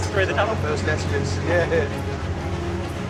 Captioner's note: laughs